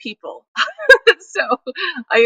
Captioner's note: laughs